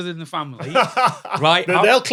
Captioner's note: laughs